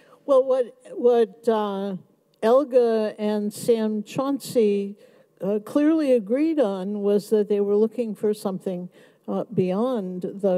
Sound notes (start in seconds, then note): none